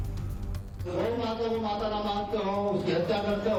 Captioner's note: speaking hindi